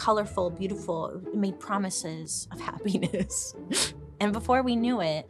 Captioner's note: chuckling